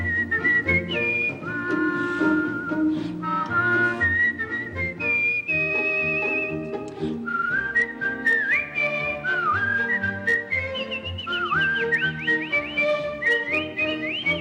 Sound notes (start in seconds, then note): 0.2 Guenevere whistling; 8.2 both whistling